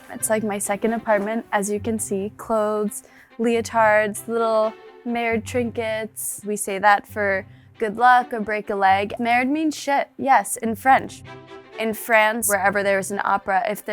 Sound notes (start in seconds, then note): 9.1 speaking in French